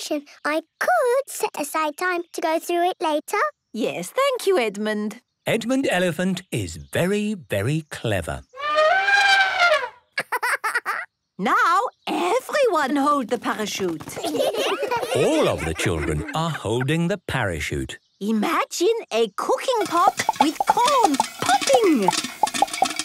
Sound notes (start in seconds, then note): 8.2 laughing; 8.5 trumpeting; 14.1 laughter